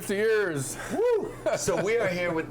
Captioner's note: chuckling